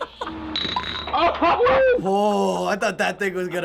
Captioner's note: laughing; spinner clinks; laughs and cheers